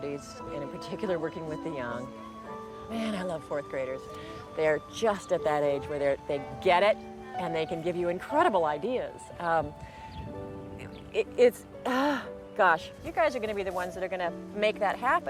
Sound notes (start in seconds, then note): none